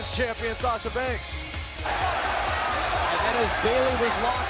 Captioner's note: crowd cheering